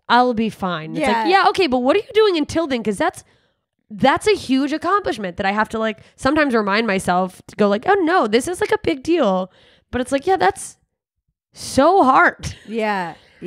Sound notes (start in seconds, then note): none